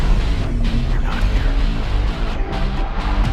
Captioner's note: echoing